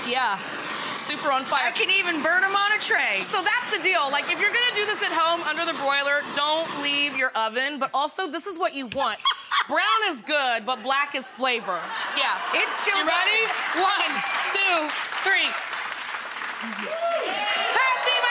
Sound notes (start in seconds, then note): 9.1 Rachael laughs; 15.6 audience claps and cheers